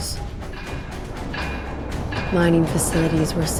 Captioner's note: metal clanking